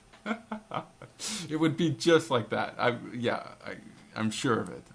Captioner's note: laughing; laugh